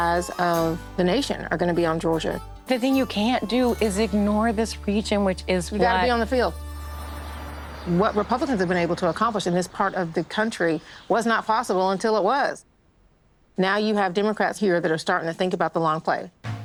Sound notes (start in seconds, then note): 6.9 birds chirping